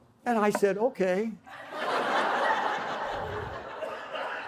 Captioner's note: laughter